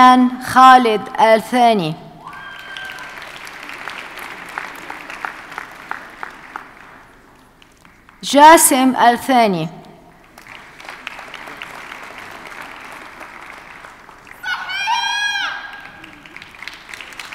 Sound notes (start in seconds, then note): 2.2 audience cheers and applauds; 10.1 audience applauding